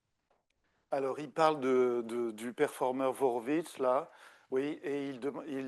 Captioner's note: speaking French